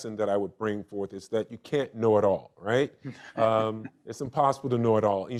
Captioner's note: laughing